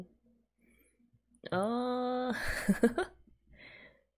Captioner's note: laughs